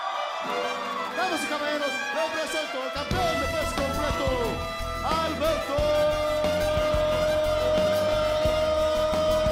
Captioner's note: speaking in foreign language